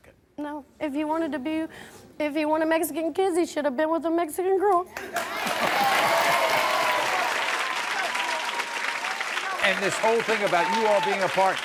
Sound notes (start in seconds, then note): 5.0 crowd cheering